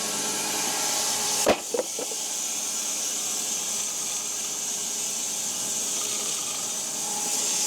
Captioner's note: log saw whirring; wood clanging